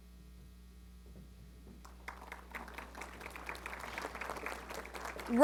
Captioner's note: applause